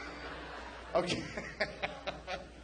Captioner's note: laughing